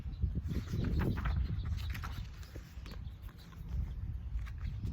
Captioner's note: paper rustling